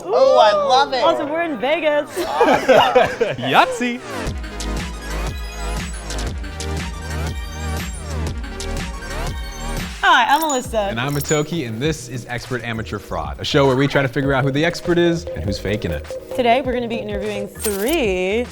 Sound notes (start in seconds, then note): 2.1 both laughing